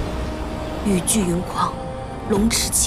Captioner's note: the storm and rain rage